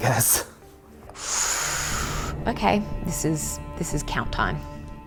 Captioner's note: inhales deeply